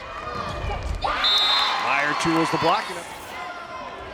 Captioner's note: whistling blowing